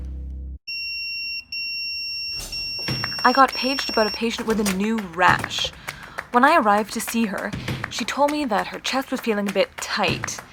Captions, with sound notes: [pager beeping] I got paged about a patient with a new rash. When I arrived to see her, she told me that her chest was feeling a bit tight